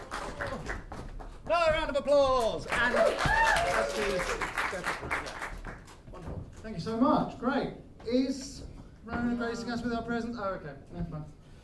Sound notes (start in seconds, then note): 2.3 applause